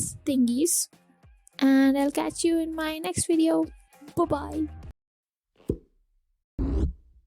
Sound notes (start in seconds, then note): 6.6 boop